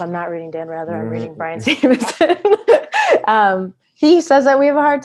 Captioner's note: laughs